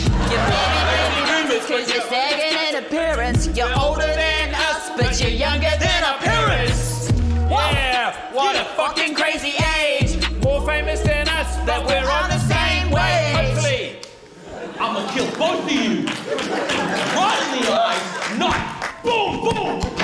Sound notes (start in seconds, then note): 0.0 laughter; 14.3 laughter, applause